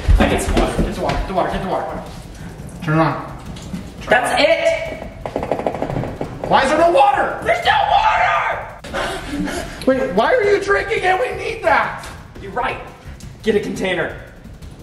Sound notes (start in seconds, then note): 2.3 water dribbling; 5.2 shaking handle; 8.8 breathing heavily; 12.2 spits